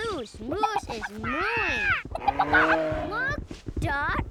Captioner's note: squawking excitedly